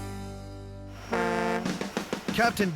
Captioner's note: boat horn